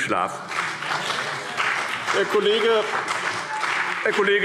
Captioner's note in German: Vereinzelter Beifall BÜNDNIS 90/DIE GRÜNEN und CDU